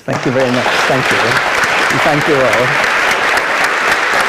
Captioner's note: applause